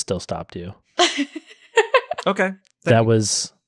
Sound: laughs

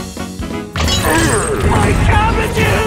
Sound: urgh

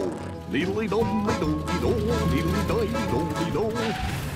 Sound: humming

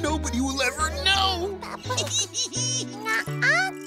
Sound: laughing

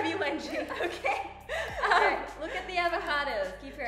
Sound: laughs

